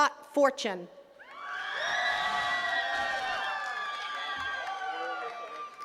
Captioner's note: attendees cheering and clapping